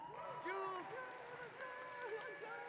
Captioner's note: audience cheering